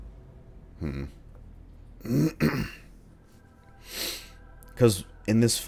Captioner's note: clears throat